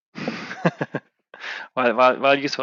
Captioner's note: laughs